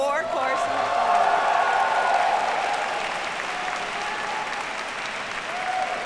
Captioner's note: audience cheers and applauds